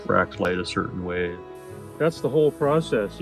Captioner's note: air blows